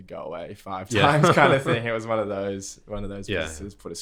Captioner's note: laughter